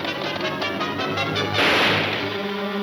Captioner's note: gunshot banging